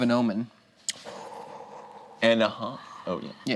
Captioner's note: exhales